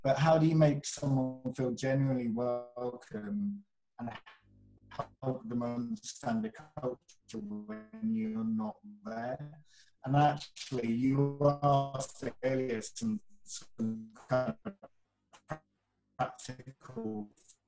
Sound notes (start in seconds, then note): 4.2 audio glitches